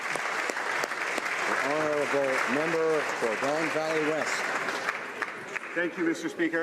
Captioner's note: applause